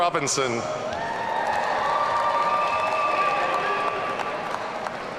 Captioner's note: audience cheering